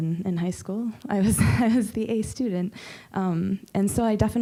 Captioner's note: chuckling